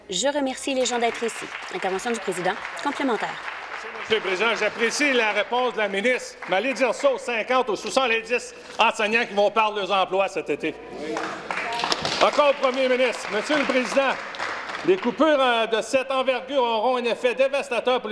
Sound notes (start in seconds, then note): 4.6 applause